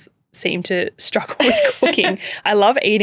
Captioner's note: chuckling